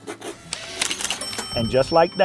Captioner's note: signature writing noise; cash register ding